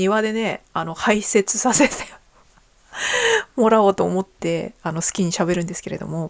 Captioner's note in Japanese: 息をのむ音